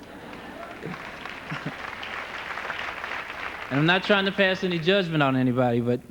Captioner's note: laughter and applause